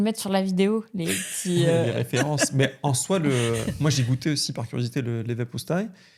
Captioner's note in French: rires